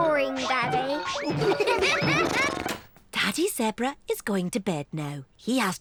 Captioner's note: all giggle